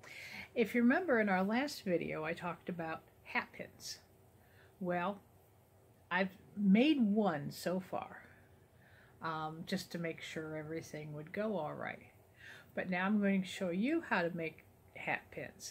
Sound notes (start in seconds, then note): none